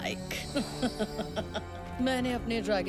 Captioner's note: chuckling